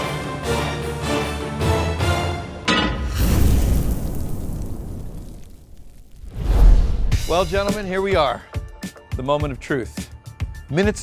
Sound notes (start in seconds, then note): 0.0 suspenseful orchestral music; 2.6 pan clanks; 3.0 fire whooshes